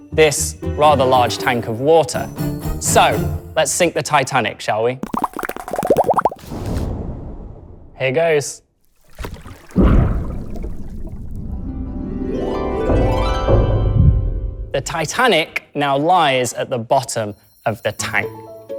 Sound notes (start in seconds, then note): 5.0 bubbly sound; 11.6 harp sounds